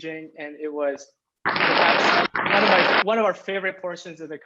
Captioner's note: applause